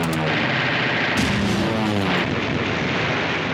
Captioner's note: explosion booms; plane roaring